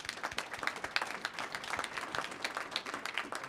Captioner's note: applause